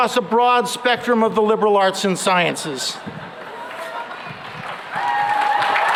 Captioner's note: applause; laughter